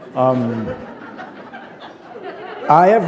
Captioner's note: laughter